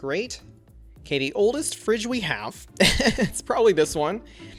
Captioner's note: laughs